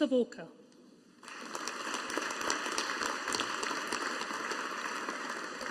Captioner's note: audience applauding